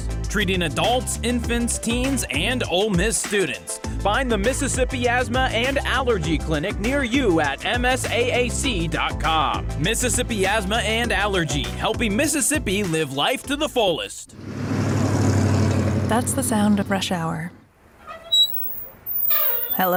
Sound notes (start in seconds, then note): 14.3 engine rumbles; 18.0 squeak